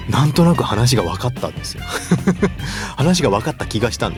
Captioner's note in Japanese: 笑い